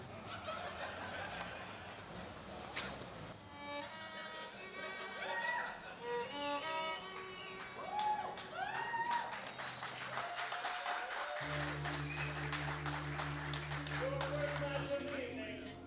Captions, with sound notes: (crowd laughing) (crowd cheering) - Your first match this evening